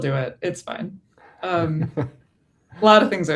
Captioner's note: laughs